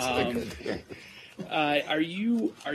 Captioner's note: laughter